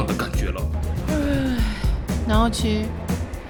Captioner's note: yawn